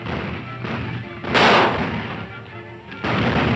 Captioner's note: firing guns; flames crackling